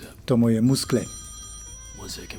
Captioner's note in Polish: zwōnek ôd telefōnu